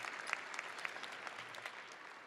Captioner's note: audience applauding